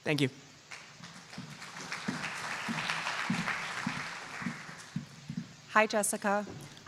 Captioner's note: applause